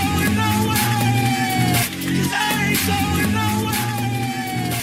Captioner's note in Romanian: Aplauze